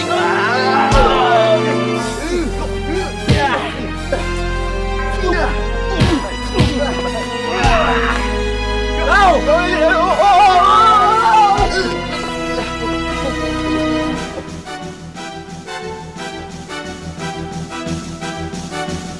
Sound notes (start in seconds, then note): 9.8 grunting; 15.2 tense music playing